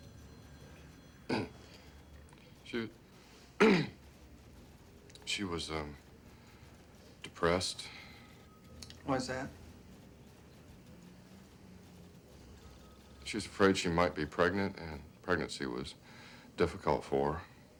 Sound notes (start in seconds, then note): 1.2 stan clears throat; 3.6 clears throat